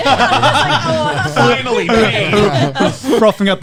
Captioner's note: laughing